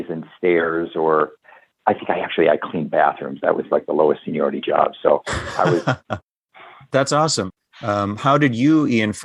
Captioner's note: laughter